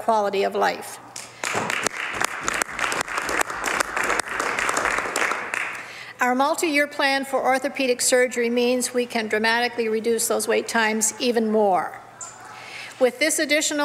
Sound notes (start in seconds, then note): 4.9 some Applause